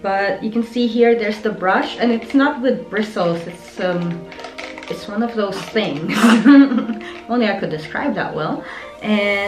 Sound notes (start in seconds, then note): 6.0 laughing